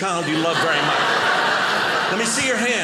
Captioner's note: audience laughing